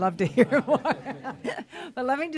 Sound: laughter

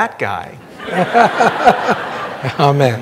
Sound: audience laughing

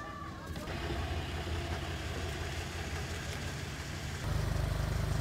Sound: motor humming

